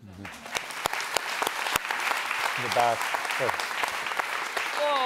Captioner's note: audience applauds